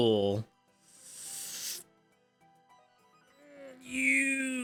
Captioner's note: sniffs